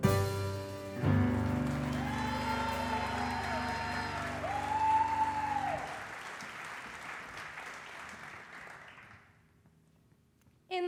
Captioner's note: audience applause